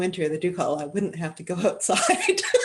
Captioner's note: speaking Indigenous language